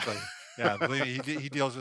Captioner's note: laughs